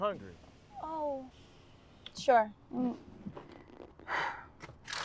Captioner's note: paper rustling